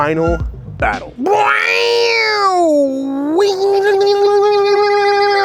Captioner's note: comical noise